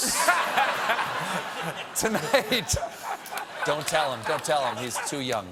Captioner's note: laughter